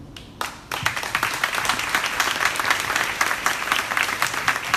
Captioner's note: crowd applauding